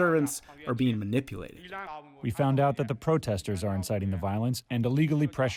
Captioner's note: through translator